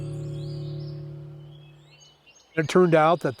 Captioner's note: engine whirring; birds chirping